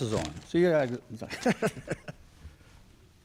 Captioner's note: laughter